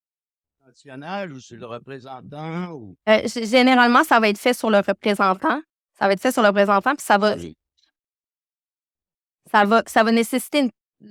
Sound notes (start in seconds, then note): 1.1 man speaking French; 3.5 speaking French